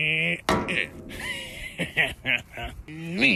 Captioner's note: stick bangs metal; laughs mischievously